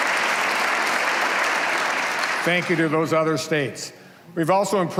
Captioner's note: applause